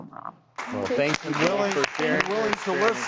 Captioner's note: audience claps